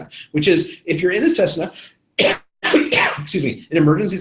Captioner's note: coughs